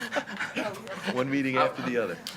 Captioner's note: group laughs